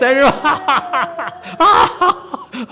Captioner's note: laughs